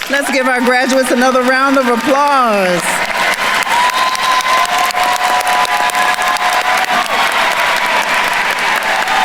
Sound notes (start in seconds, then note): 3.3 attendees cheering and applauding